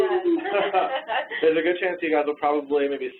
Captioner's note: laughing